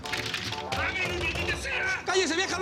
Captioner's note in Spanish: Toques en la puerta